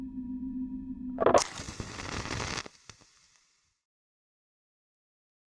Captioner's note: portal sound